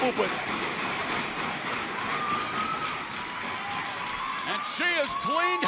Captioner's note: crowd cheering